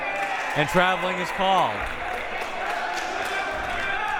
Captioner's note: clapping